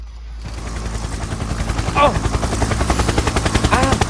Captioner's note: helicopter flies